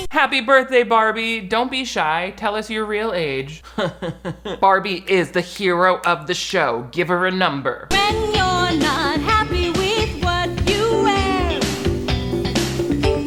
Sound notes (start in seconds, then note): 3.6 chuckles